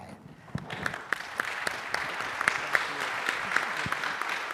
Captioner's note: audience applauding